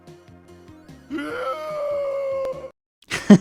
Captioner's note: despair sound; laughs